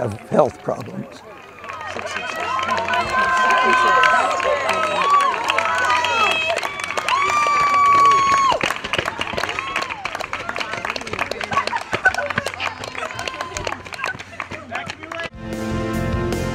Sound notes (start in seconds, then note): 1.2 applause; 5.9 cheers